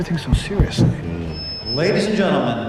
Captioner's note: microphone squelching